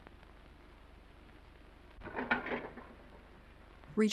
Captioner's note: plates clattering